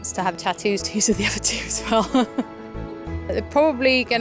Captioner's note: laughs